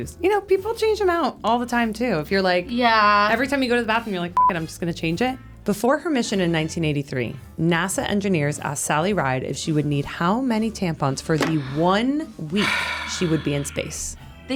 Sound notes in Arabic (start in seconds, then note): 4.5 صوت تنبيه